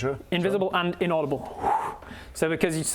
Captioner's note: whoo